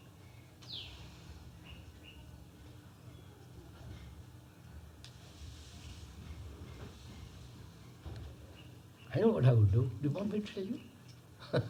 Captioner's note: laughs